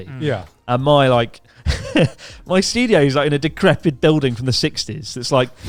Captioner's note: chuckling